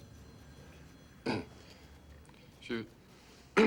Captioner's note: stan clears throat; clears throat